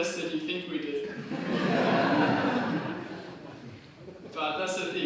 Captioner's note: crowd laughs